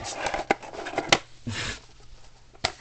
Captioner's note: chuckle